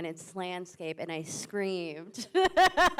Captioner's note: laughs